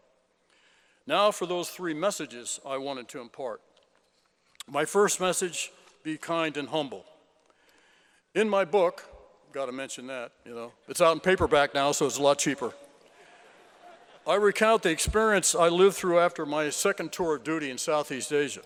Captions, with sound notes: Now for those three messages I wanted to impart. My first message, be kind and humble. In my book, gotta mention that, you know. It's out on paperback now, so it's a lot cheaper. (LAUGHTER) I recount the experience I lived through after my second tour of duty in southeast Asia.